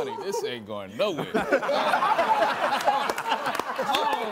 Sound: all laughing

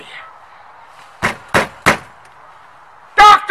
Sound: knocking

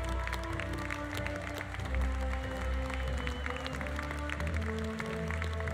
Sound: audience applause continues; audience cheering continues

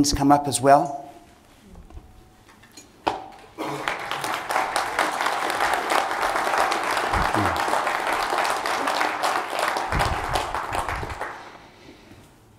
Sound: applause

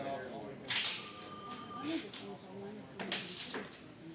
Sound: phone rings

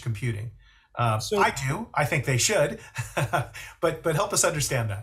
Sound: chuckles

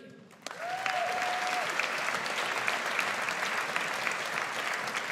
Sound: audience applauds

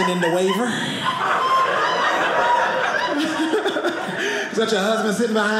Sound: audience laughing

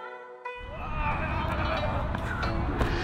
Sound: screaming; gong

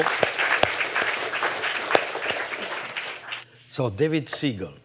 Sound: applause

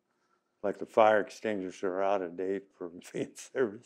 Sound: laughs

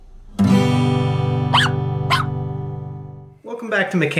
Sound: dog barks twice

